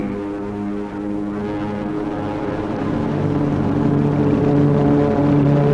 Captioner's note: planes flying overhead